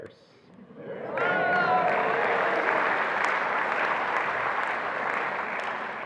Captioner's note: attendees applauding and cheering